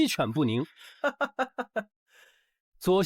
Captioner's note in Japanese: ハハハ